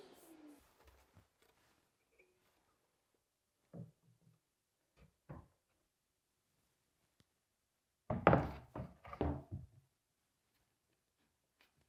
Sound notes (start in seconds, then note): 8.1 board thudding